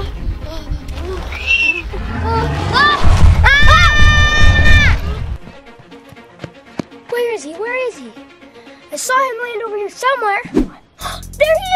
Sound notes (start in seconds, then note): 1.8 loud roaring; 3.4 both screams